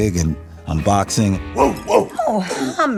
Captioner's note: barks